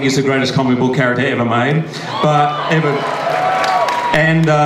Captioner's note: audience cheers